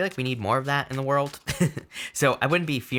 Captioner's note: laughing